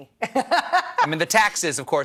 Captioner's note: laughs